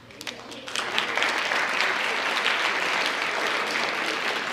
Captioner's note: audience applauds